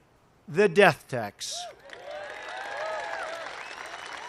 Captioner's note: applause